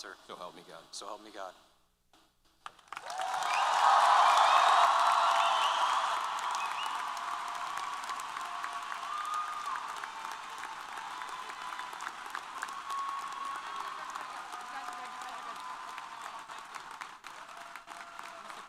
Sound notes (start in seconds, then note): 2.5 applause & Cheers; 14.5 applause